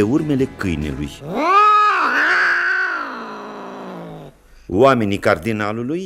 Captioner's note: cat meowing